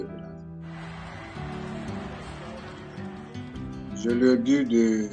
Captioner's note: calm music continues; crowd cheering; speaking in French